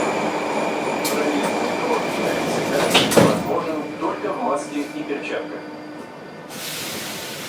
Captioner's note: closing doors